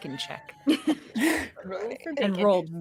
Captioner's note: cast members giggling